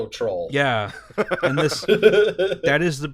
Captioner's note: laughter